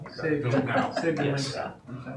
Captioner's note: audience laughing